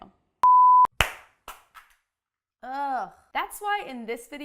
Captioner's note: claps